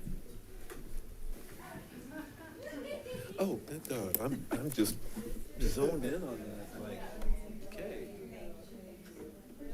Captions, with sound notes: (laughter rings) - Oh! I'm just zoned in on that. Like, okay.